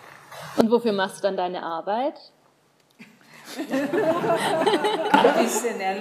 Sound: laughing

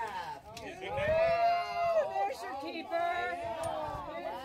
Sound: cheering

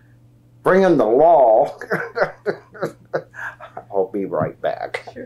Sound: laughs

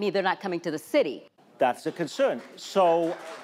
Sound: audience applauding

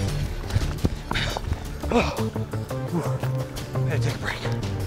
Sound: panting

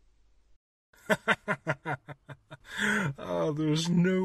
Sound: laughing

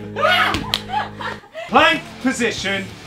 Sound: Vik shouting

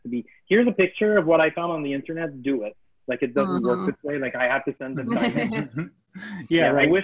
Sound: laughs

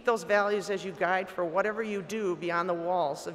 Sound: none

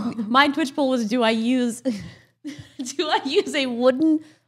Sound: laughs

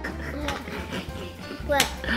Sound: laughing

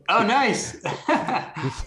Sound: laughter

